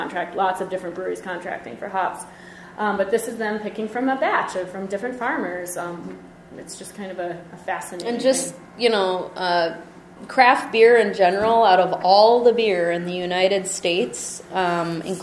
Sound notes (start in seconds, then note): 8.4 voiceover